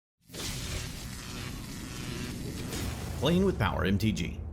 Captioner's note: electric crackling